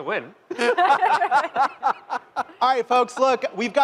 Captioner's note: laughter